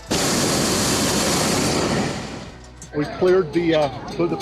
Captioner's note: burner roars